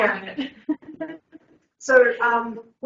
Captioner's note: laughs